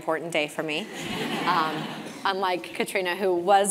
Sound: laugh

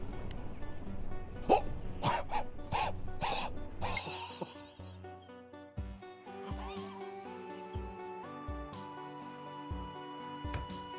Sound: laughs

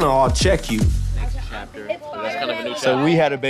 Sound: indistinct conversation

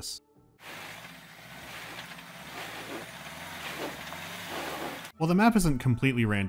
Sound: quiet grunting of wheels trapped in loose traction

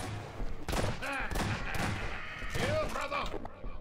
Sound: laughter

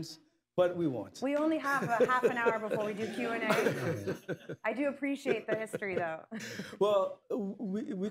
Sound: laughter

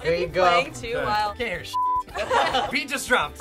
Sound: laughter

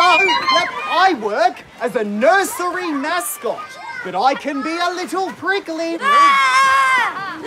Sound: intense splashing, loud horn honks; shouting; Obnoxious Child wails at Trevor

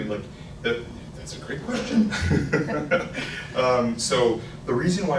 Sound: laughs

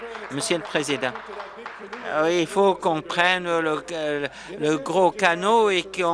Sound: applause

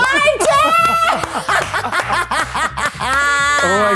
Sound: clapping

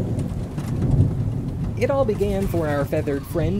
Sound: thunder, wings flapping

